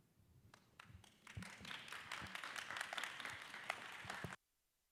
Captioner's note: applause